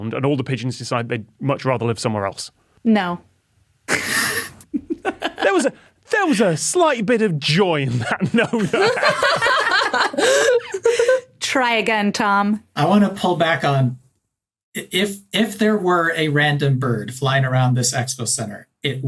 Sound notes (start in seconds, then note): 3.9 laughs; 7.9 laugh